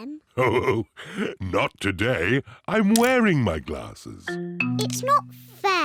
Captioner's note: chuckles